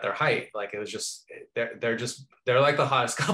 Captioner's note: laughing